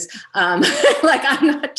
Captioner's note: laughs